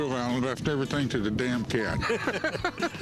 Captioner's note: laughter